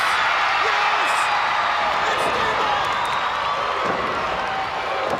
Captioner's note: crowd cheering; blows thudding